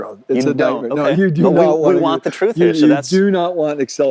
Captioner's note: both chattering